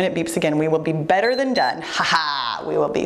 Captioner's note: timer beeps